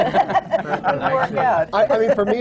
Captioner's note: laughter